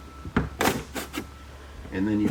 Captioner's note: door thuds